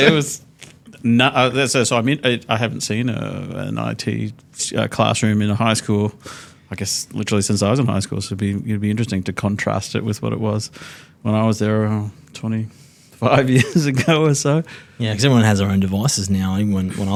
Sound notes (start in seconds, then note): 13.5 chuckles